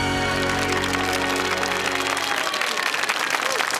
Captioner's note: audience claps